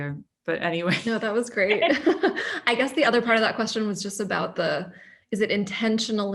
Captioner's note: laughter